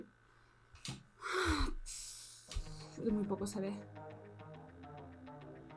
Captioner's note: sighs